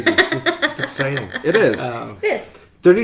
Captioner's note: laughing